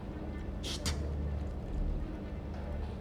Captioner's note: hushed